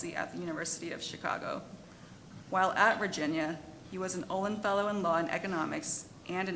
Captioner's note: none